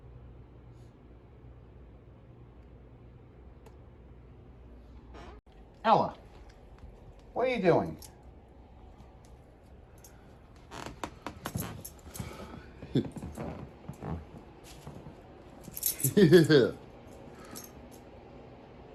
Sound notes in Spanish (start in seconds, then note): 8.0 Ella se ríe; 8.0 piso crujiendo